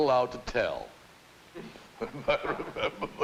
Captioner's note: chuckles